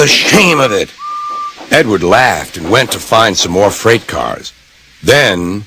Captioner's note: edward whistled